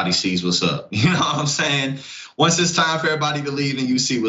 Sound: laugh

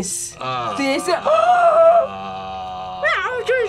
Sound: gasps

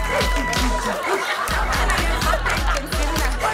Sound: laughter

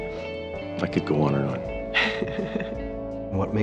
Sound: daughter chuckles

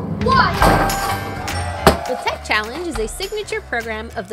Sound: cheering

